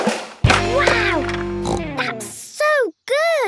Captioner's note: snorts